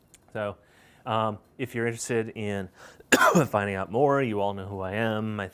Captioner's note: coughs